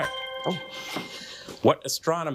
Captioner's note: bell dinging